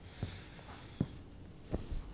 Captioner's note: sighs